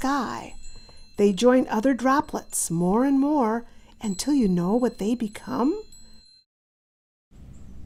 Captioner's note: tinkling sounds